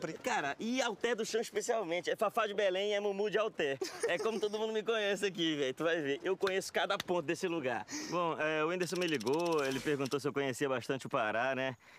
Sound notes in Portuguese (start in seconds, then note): 3.7 Whindersson rindo